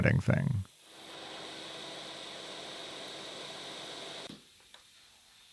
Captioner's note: lathe whirring